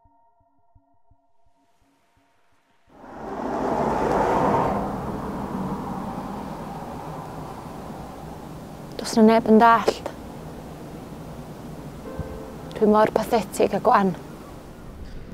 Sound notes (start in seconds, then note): 2.9 large vehicle passes by. traffic